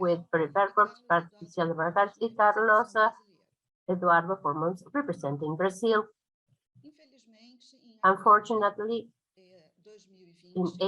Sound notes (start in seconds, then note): 0.6 speaking in foreign language